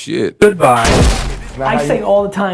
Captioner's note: explosion